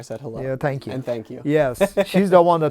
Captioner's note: chuckles